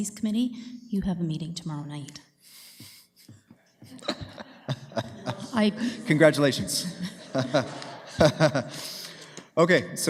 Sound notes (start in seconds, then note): 3.8 laughter